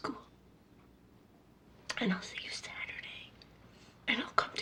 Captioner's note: whispers